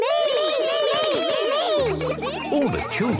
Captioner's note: all calling out